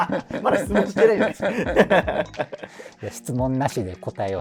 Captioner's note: laughing